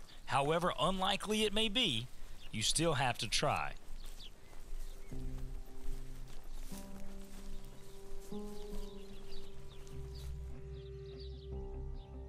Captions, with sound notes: However unlikely it may be, you still have to try. (Soft music) ( Birds chirping)